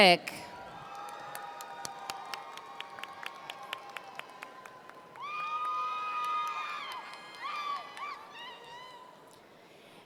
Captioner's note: applause & Cheers